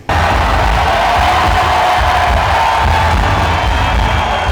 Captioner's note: audience cheering